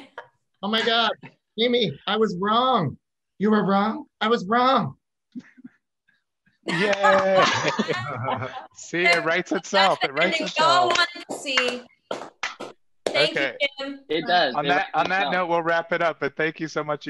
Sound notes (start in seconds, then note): 5.2 all applaud; 10.7 all clap